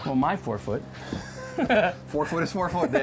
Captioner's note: laughs